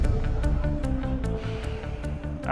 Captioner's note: suspenseful music; sighs